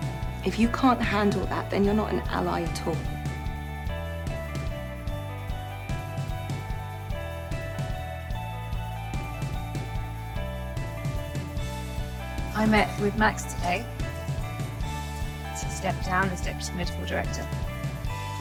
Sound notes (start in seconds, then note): 12.8 voiceover